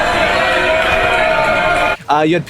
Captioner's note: yelling